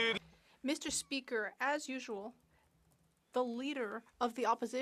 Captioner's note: some Applause